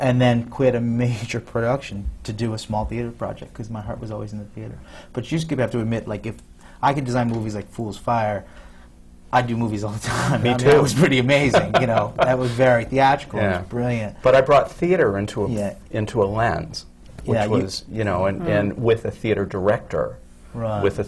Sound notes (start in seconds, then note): 11.6 laughs